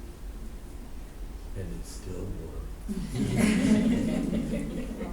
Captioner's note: laughter